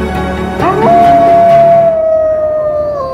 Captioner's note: wolves howling